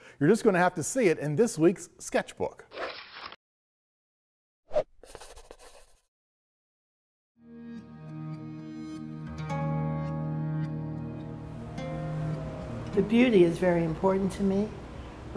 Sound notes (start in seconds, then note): 5.0 sketch sound; 7.4 gentle music